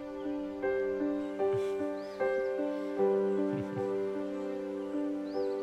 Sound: both chukle

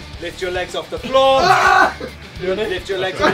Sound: Vik screaming

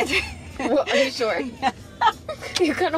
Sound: laughing

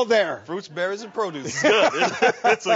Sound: laughs

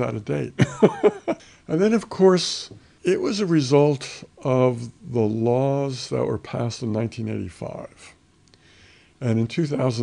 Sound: laughs

